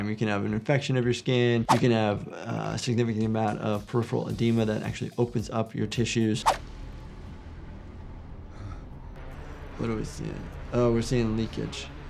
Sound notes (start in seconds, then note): 6.4 air whooshing; 8.8 panting